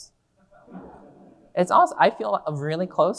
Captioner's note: audience laughing